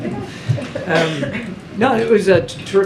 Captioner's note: laughs